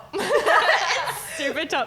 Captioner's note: laughing